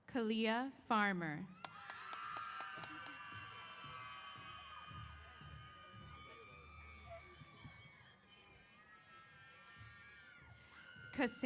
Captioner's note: applause & Cheers